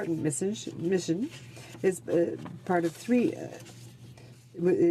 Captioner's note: speaking in french